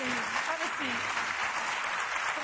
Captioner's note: applause